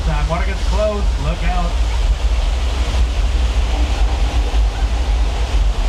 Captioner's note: water rushing